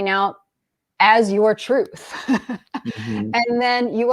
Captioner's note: laughs